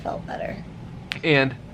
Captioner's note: snaps fingers